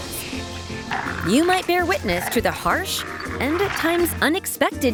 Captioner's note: angry growls